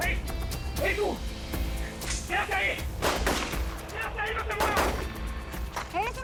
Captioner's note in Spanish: Disparo; Disparos